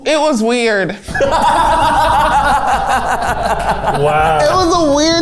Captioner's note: everyone laughing